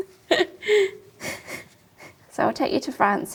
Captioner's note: laughs